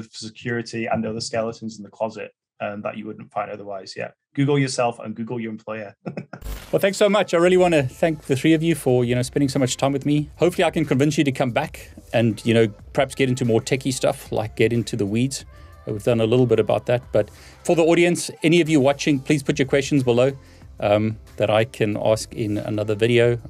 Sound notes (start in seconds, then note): 6.0 laughs